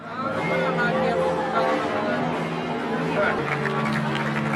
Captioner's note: people talking; audience applauding